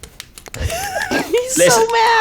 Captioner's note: rock taps against pen